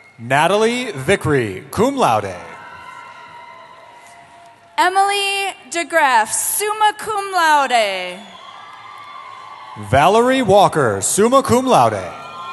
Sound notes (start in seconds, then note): 0.0 cheering; 2.1 cheering; 7.6 cheering